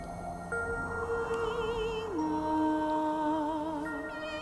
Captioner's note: sirens singing